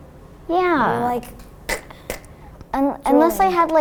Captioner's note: coughs